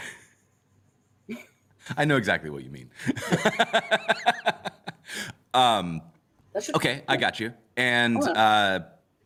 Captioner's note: laughs